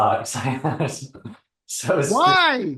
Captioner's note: person laughing